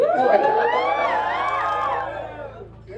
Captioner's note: applause